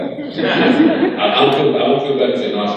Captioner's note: crowd laughing